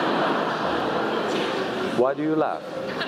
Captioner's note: laugh